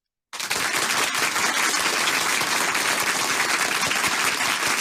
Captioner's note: applause roars